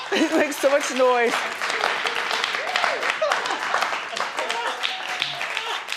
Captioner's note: audience applauding